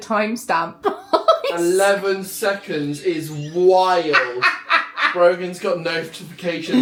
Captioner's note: laughs